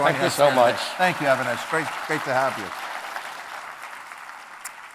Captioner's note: crowd clapping